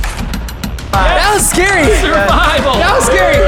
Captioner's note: laughing